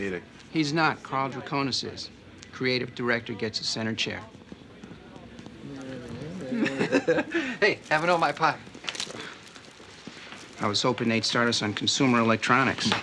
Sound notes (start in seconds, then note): 6.4 mutters, laughs